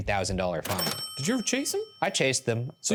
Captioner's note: cash register dings